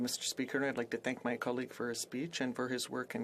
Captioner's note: speaking French